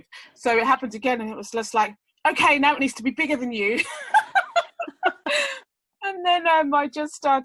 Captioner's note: laughs